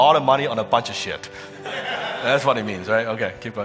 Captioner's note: audience laughing